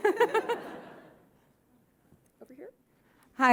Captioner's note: audience laughing